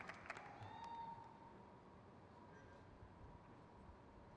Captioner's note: crowd cheers